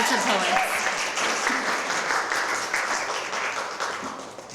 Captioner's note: applause